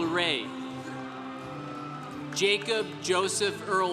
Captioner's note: congregation cheering